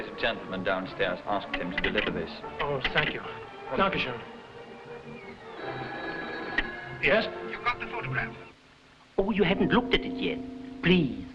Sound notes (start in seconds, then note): 0.0 man speaking foreign language; 4.3 guy speaking foreign language; 5.5 phone ringing